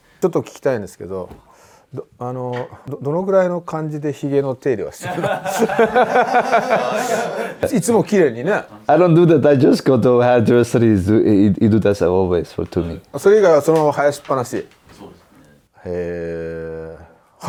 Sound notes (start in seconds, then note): 5.0 laughs